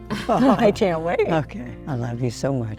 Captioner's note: laughs